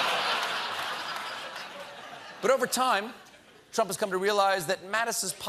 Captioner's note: laughter